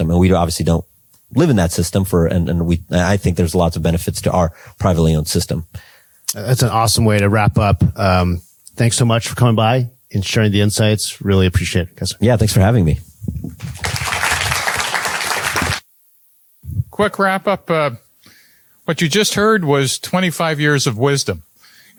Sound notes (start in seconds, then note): 13.6 applause